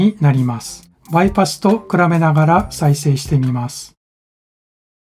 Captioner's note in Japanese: リバーブのみの音